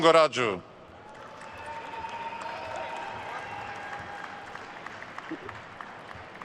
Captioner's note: attendees cheering and applauding